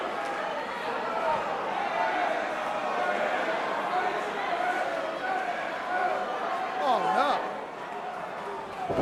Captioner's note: crowd chatter